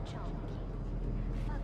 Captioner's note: speaking foreign language